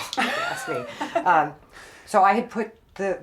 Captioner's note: both laughing